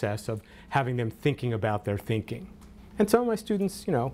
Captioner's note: none